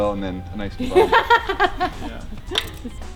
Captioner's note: laughing; gentle music